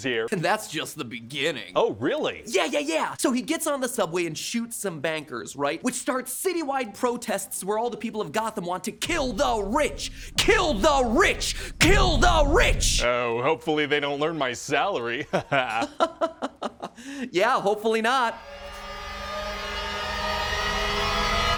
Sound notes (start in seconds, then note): 15.2 laughs; 18.4 tense music